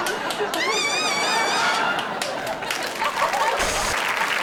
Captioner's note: person claps; bird screeches; audience applauds